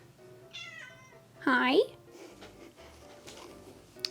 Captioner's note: kayla meows